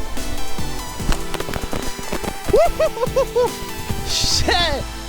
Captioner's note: footsteps pattering; man laughs loudly